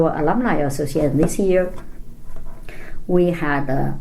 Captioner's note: none